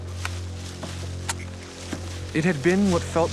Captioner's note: click